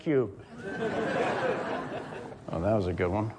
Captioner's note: audience laughs